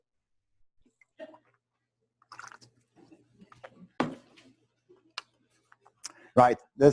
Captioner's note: pause